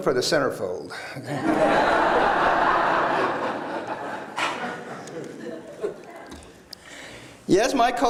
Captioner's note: laughter